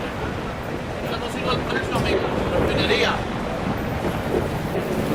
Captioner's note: thunder